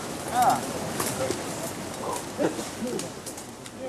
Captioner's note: soft chattering